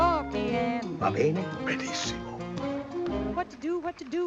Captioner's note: speaking Italian